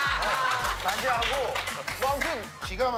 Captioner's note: hahaha